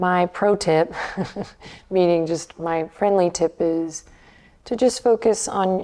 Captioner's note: chuckles